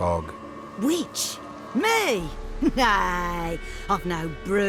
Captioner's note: surprised